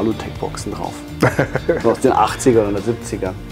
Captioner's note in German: lacht